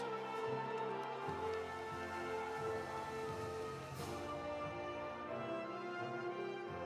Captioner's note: audience cheering; audience applauding